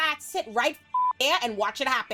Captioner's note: beep